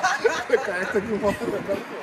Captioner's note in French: rires